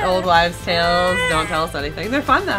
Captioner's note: baby whining